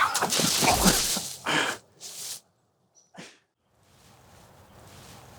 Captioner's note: thud and leaves rustling